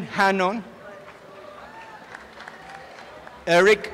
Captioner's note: applause and cheering